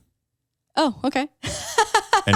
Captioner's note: laughs